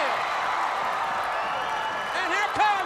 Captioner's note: crowd cheering